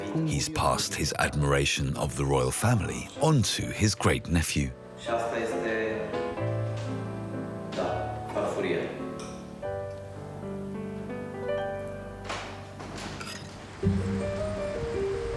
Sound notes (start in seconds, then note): 7.7 speaking foreign language